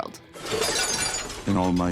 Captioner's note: pottery crashing